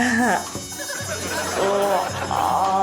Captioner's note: chuckles